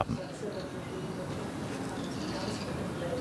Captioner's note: babble of voices